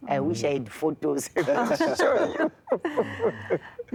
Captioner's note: laughter